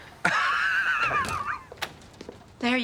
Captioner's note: laughing